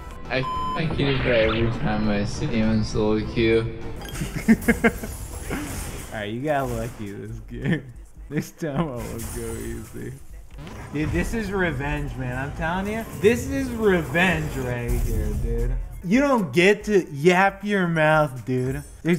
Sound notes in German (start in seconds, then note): 4.1 Huehehehhuhuhe; 4.1 Lacht